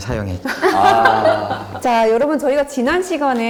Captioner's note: laugh